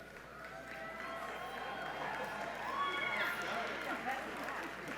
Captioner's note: audience applauds